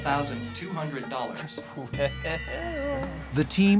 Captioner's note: chuckling